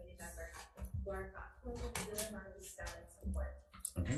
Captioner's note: speaks faintly